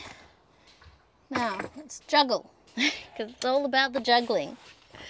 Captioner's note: laughs